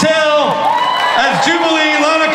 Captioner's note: audience cheers